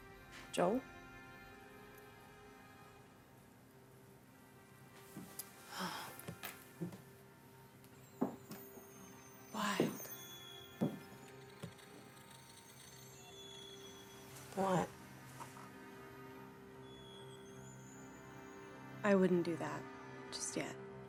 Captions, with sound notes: - Joel? (sighs) (boots tapping) Quiet. - What? I wouldn't do that just yet.